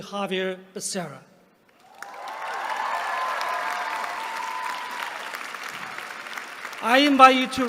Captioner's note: applause